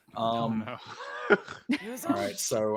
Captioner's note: scoffs